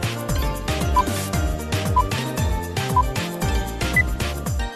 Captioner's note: countdown beeping